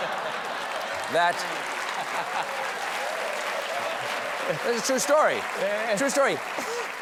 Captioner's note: applause